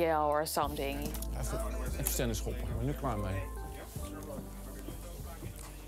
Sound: speaks in foreign language

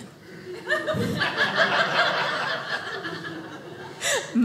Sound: audience laughing

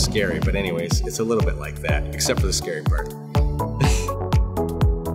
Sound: laughs

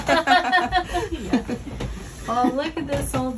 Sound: laughing

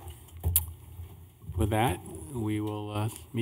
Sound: gavel

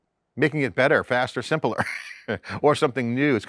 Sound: laughs

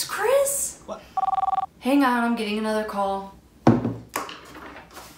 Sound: phone ringing

